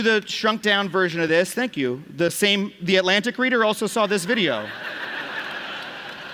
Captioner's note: clap; laughter